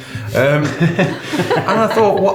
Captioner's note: laughing